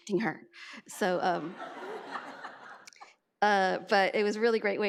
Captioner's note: audience laughs